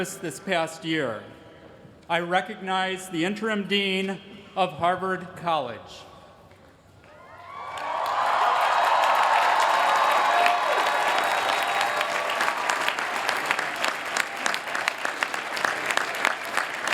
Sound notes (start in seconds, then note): 7.2 cheering